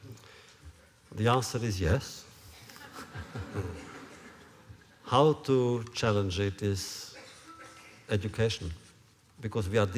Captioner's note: laughter